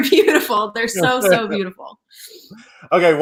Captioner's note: laughs